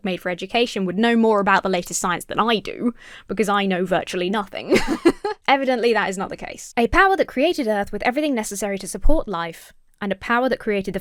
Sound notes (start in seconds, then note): 4.6 laughs